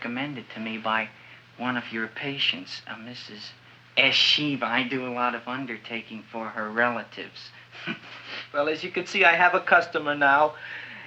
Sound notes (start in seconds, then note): 7.8 chuckles